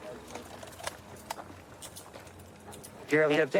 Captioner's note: handcuffs clicking